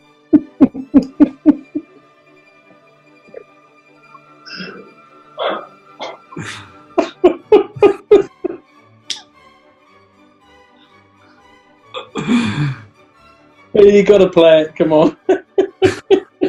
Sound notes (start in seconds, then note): 0.0 chuckling; 4.3 giggling; 15.0 giggling